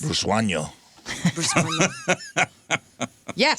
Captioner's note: laughing